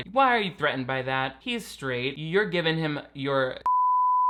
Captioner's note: beep